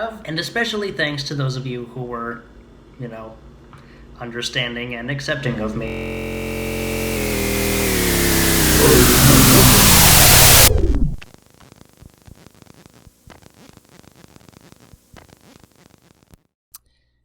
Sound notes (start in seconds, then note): 6.9 static and distortion; 10.5 static slows to a stop; 11.2 quieter tape distortion